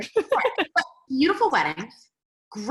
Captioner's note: laughs